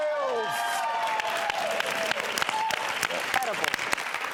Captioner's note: audience claps